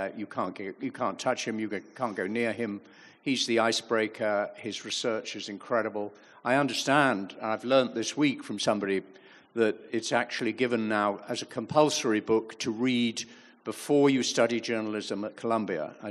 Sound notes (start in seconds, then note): none